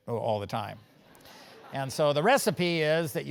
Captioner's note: laugh